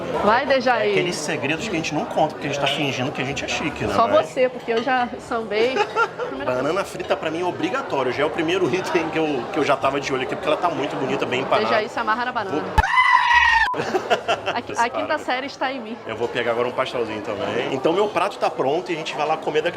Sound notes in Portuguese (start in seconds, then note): 5.6 risos; 13.7 risos